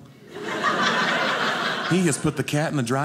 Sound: audience laughing

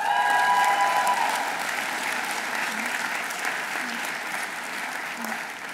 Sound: audience cheering; audience applauding

